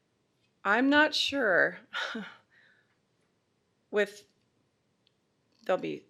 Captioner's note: exasperated laugh